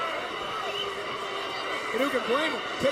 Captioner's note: crowd cheering